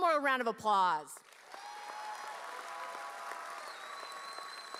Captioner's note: audience cheering